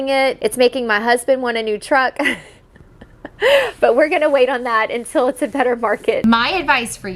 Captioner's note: laughs